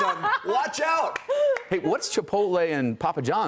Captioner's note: laughter